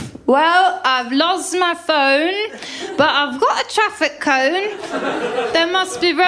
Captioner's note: whoosh... whoosh; drunkenly; laughter